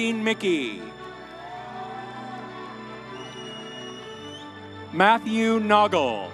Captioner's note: audience cheering